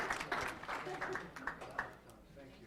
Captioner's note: applause